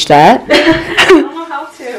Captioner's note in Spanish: risa